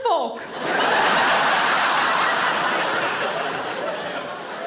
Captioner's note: audience laughing